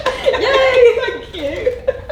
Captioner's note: laughs